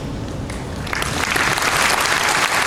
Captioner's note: applause